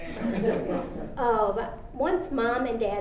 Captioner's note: audience laughing